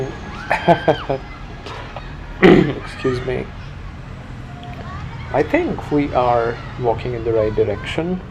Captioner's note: clears throat